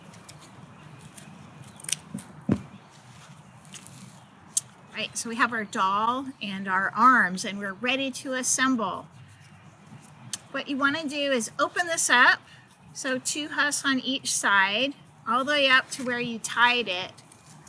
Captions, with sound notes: [scissors snipping] So we have our doll and our arms and we're ready to assemble What you want to do is open this up So two husks on each side All the way up to where you tied it